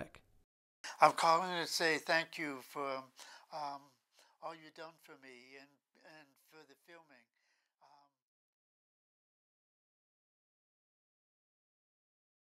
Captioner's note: volume fades down